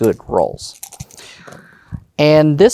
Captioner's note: dice rattling; dice rolling